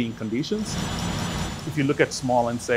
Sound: legs whirring

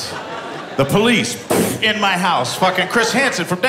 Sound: boom

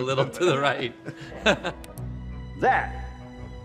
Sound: all chuckling

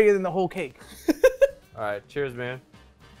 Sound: laughs

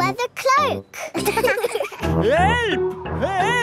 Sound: laughing

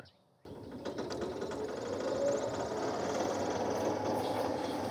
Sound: lawn mower running

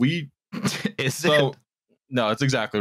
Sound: snorts

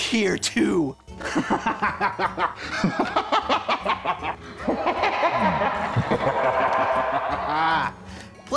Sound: cackles maniacally

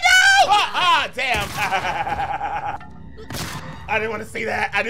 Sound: gun blasting; laughing

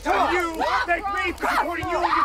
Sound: screaming/chaos

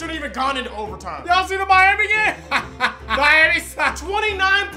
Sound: laughs

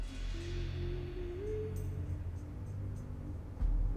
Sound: child humming; eerie dramatic music continues

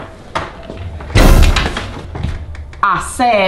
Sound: dramatic bang

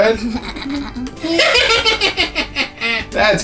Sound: laughing

